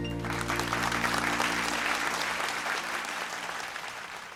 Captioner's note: audience applauding